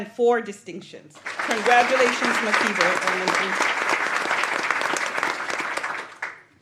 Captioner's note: applause